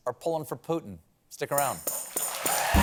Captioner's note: cheers and applause